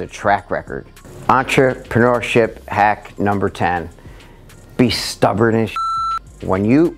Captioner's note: beep